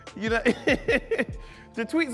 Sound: laughs

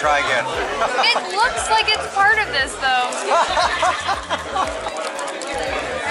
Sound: laughter

